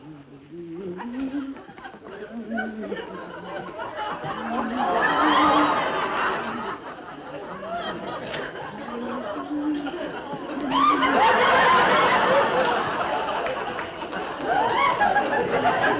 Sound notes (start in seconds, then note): 5.2 humming; 5.2 laughter